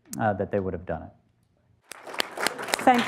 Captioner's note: applause